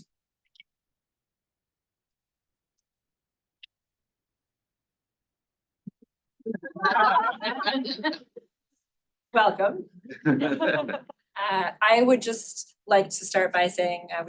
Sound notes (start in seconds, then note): 6.5 laughter